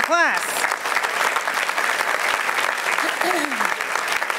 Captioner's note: applause